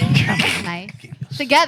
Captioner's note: speaking Foreign Language